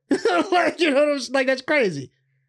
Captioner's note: laughing